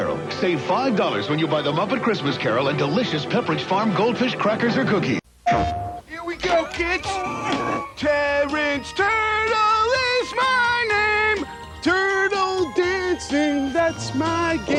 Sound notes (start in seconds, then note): 5.5 PlayStation sound